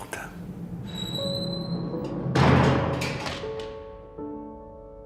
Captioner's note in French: Grincement de porte